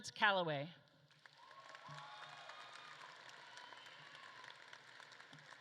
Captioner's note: audience claps and cheers